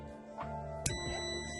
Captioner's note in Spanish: sonido: piiiiiii